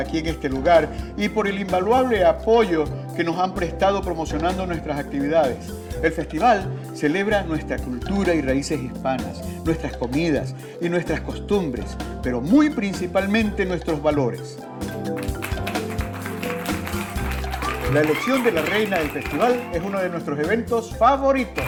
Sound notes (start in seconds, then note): 15.1 clapping; 17.2 cheering; 19.0 clapping